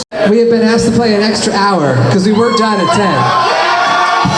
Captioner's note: cheers